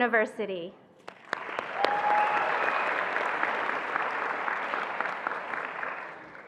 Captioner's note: attendees applauding and cheering